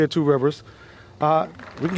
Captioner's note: applause